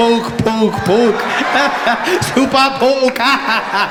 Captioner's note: Jacob Zuma laughing